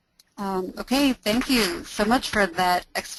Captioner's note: voiceover